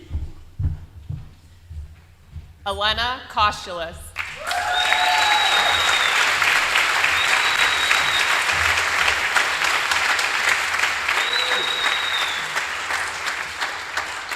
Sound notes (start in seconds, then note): 8.8 applause